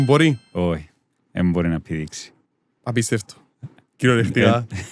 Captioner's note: laughs